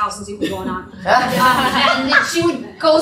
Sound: laughter

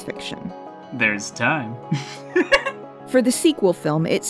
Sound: giggles

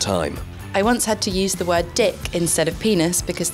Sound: voiceover

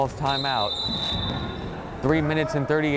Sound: whistle blows

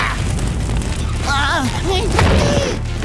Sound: groaning

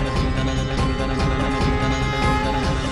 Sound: conch blows

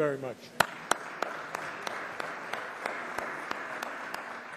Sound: applause

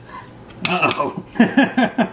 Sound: laughing

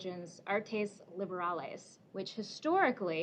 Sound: speaking greek

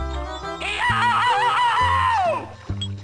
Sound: screams

